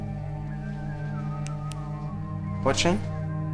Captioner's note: snaps fingers